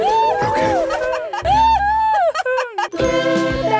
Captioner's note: Rhubarb and Floret laughs; Rhubarb and Floret laughing